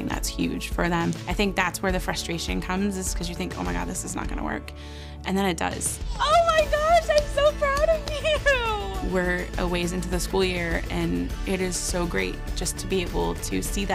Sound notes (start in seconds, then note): 7.9 laughing